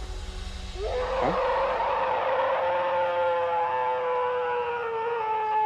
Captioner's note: howling